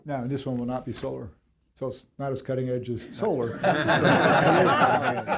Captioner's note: laughter